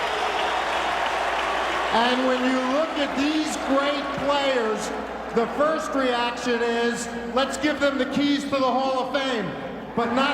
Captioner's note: applause